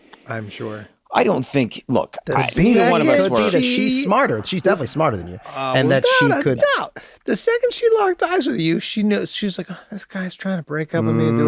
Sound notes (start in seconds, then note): 2.5 overlapping chatter